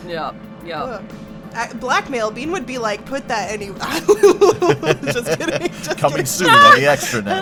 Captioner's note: laughs; chuckles